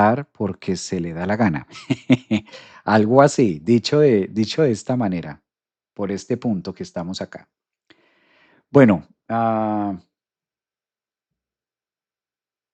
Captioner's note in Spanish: risas